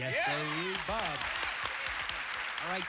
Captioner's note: cheers and applause